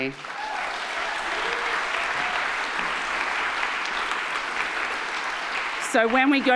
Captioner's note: audience applauding; audience cheering